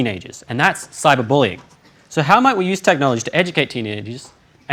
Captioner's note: none